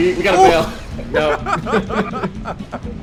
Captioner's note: both laugh